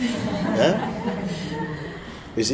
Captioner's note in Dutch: gelach